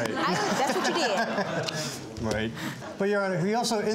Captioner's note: audience laughing